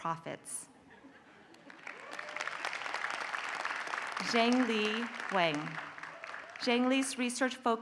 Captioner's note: applause